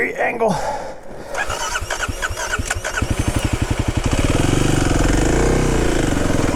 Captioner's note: bike wheels whirring